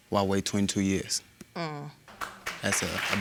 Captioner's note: audience applauding